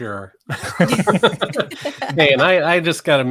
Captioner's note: all laughing